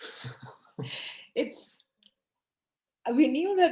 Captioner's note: both laugh